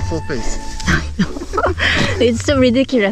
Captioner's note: laughing